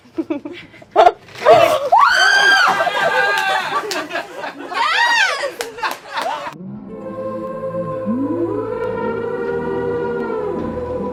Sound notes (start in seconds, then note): 2.1 squealing; 2.3 laughing; 6.6 dreamy atmospheric music